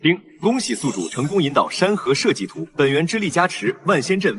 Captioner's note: ding!